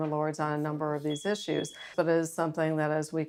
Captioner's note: alarm beeping